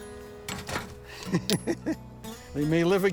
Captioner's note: laughing